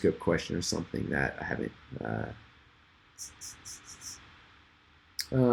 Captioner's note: tuts